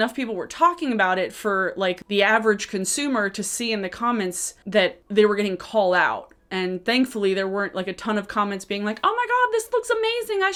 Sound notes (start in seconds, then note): none